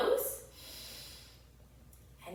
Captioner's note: inhales deeply